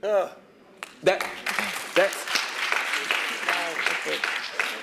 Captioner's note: applause